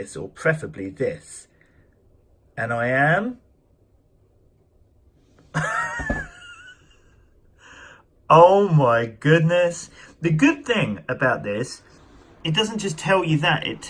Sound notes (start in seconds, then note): 5.5 laughter